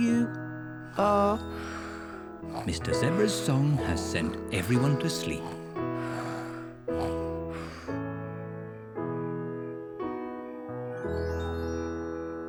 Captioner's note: all snore